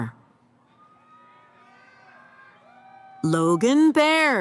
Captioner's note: cheering